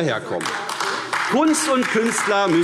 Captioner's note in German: Beifall AfD